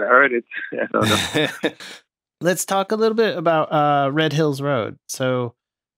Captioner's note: laughter